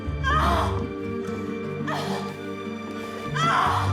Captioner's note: Catherine yelling